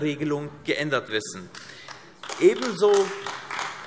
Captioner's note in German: Beifall AfD